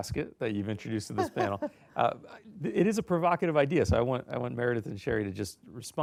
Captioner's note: laughter